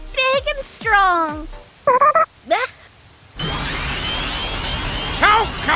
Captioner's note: Poyomon eating noises and then…